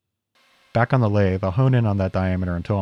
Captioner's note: lathe whirring